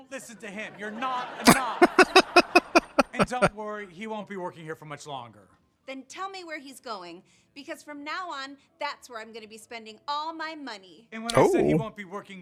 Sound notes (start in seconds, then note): 1.4 laughing